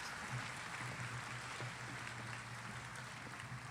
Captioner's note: applause